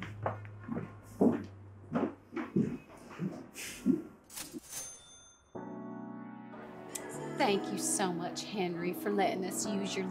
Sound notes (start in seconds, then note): 3.6 Hammy sighs; 4.5 cash register dings